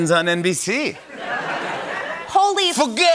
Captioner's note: laughter